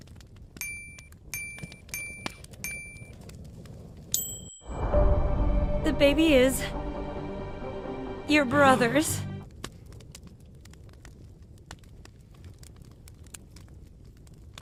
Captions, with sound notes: (pinging) (dramatic music) - The baby is... (dramatic music) Your brother's. (fire crackling continues)